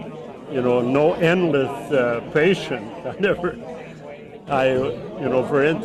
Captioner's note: laughs